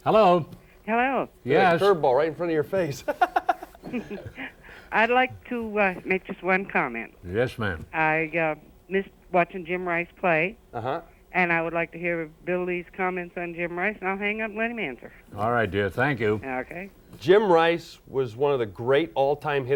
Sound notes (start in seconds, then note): 2.9 laughs